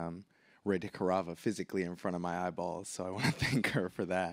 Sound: laughs

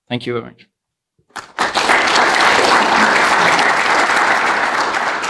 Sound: applause

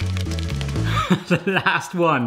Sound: upbeat music; laughing

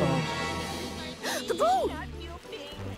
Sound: gasps

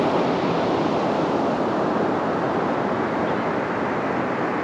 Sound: sounds of Gulls nearby

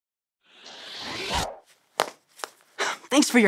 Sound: pictures woosh

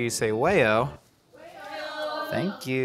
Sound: crowd

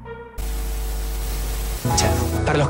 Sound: interference

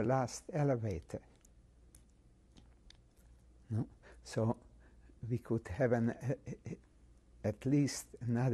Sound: pauses for 3 seconds

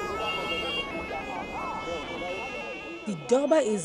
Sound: car horns honking

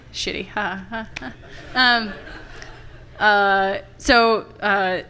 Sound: laughter from the audience

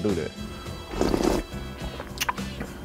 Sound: slurping

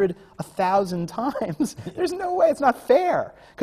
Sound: laughs

